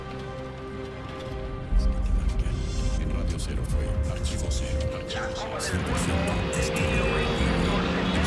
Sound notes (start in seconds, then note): 2.4 commentators speak in Spanish, voices overlap